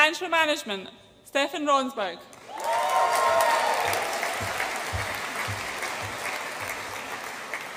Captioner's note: audience applauds and cheers